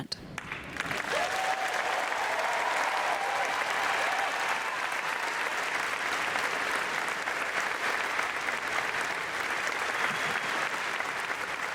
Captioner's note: applause